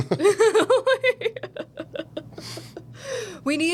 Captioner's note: laughing